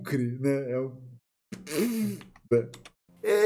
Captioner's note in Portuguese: Ruídos com a boca